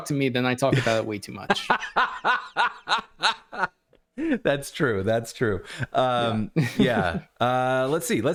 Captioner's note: laughter